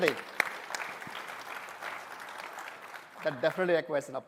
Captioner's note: applause